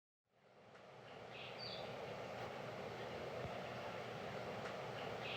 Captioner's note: birds chirping